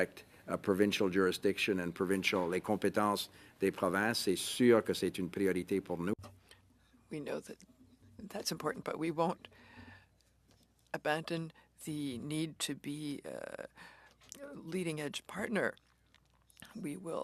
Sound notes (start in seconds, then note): 9.4 speaking French